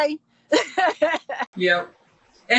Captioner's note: laughing